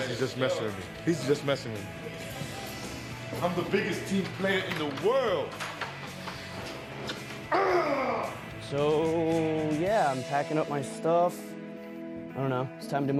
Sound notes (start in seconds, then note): 7.5 growls